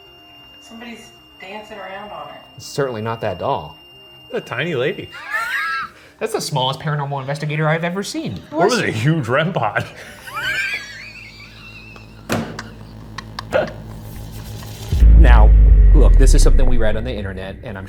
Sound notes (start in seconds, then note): 5.1 Ryan laughs; 9.7 both laughs